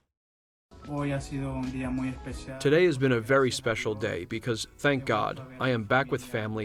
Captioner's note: through translator